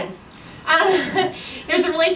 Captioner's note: presenter laughs